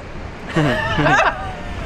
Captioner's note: laughter